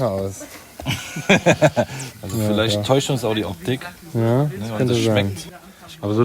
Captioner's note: laughter